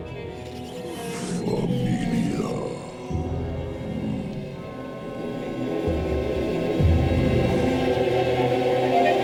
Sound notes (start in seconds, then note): 0.9 The Patriarch speaking in foreign language; 5.4 pensive music